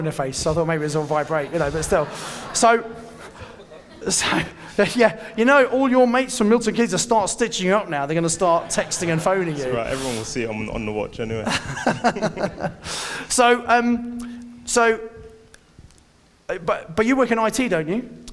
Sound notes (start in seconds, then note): 11.4 laughing